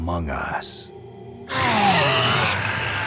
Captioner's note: shrieks